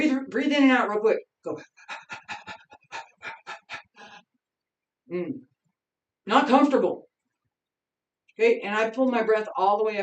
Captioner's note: panting